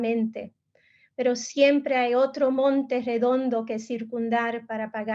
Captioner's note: speaking in Spanish